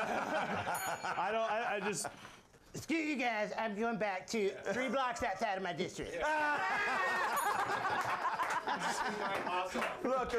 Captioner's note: laughter; bell Rings